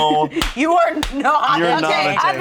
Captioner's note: laughing